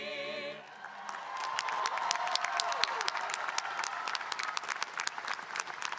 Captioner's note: audience cheering and applauding